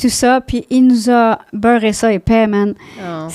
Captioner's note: in french